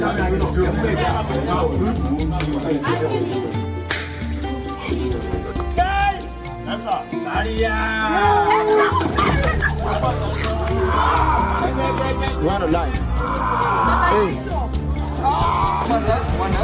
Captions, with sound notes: (firecracker pops) - Guys. - That's a barrier. (all chattering) (man groaning)